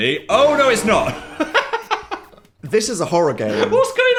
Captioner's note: laughs